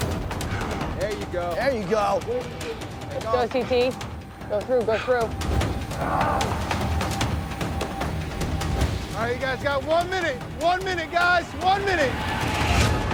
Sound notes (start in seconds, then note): 6.2 dramatic music; 6.2 man grunts; 12.9 dramatic music